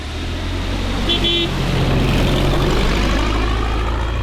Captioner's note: horn beeping